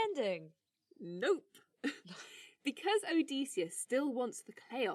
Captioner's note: cheerfully